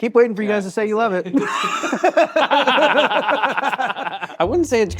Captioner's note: all laughing